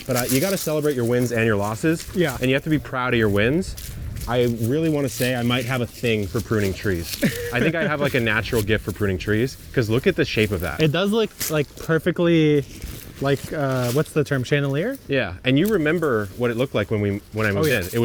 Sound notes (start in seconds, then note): 7.0 laughing